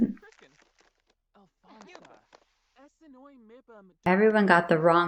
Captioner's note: teacher's voice droning on in the background